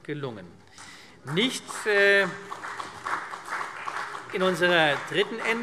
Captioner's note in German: Beifall CDU